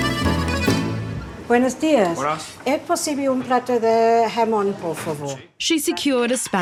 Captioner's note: both speak spanish